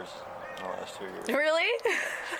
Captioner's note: laughs